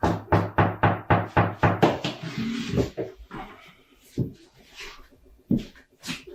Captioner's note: knocking at door